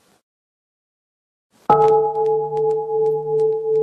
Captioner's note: bell